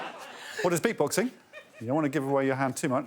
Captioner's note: audience laughs